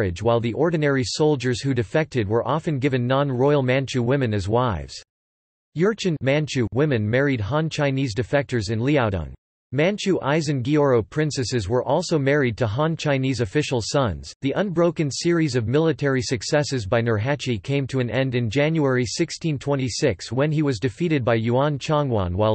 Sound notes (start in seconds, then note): 6.0 manchu